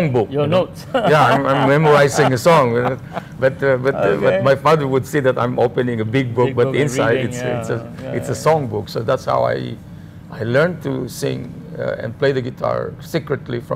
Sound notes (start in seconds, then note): 0.9 laugh